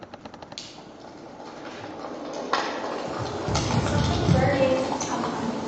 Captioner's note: flames crackling